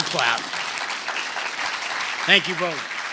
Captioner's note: applause